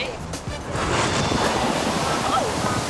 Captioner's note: wave crashing; newscaster exclaiming